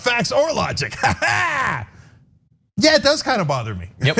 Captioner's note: laugh